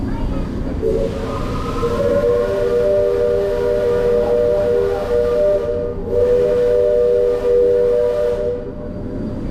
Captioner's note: steam whistles